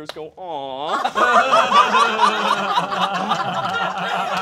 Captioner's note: all laughing